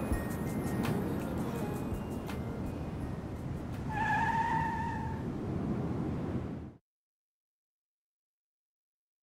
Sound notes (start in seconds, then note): 3.4 tires screech